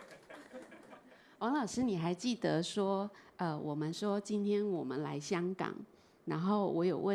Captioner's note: chuckles; Mandarin